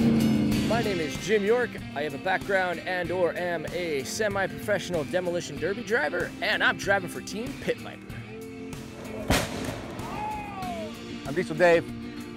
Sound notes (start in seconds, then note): 9.0 explosion